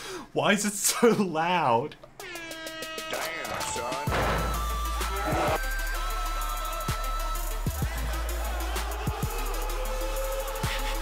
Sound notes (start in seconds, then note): 1.9 airhorns; 4.0 airhorns; 4.1 bad music